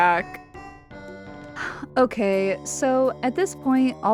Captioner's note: sighs